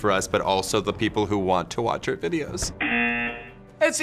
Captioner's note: buzzer